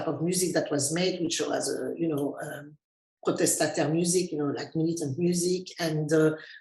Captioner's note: speaking in French